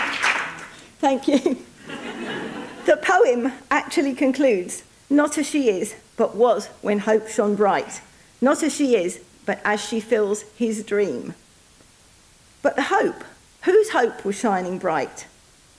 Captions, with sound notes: Thank you. (audience laughing) The poem actually concludes not as she is, but was when hope shown bright, not as she is, but as she fills his dream. But the hope, whose hope was shining bright,